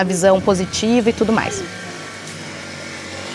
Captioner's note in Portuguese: motocicleta acelera ao fundo